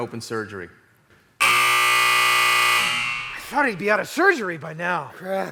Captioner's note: buzzer